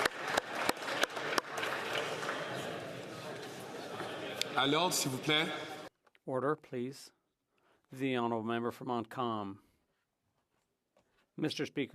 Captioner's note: some Applause